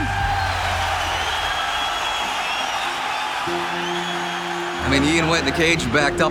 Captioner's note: crowd cheering